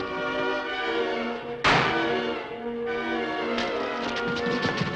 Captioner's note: board thuds